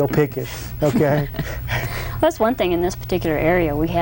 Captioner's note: everyone laughs